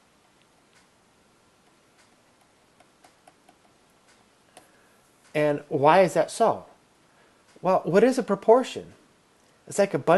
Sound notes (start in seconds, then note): 0.6 clicking; 1.6 background clicking